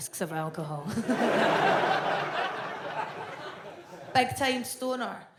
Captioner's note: audience laughs